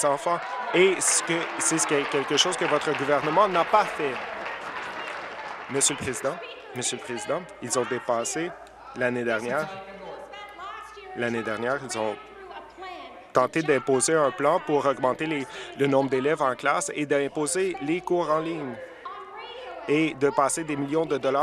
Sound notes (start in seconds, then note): 6.0 applause